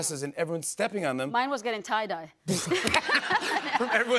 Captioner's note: laughter